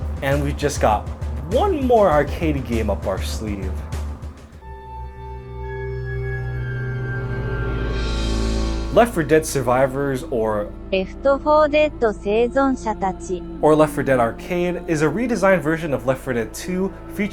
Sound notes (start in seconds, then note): 4.5 eerie music; 10.1 speaking foreign language